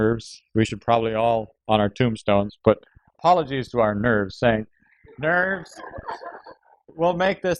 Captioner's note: laughter